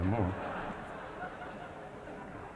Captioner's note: audience laughing